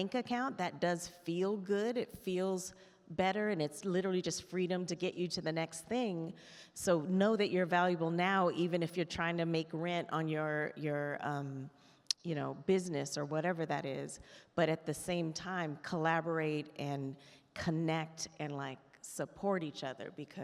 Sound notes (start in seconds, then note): none